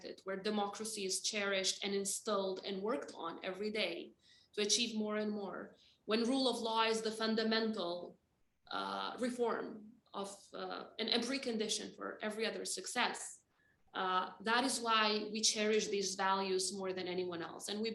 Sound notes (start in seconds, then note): none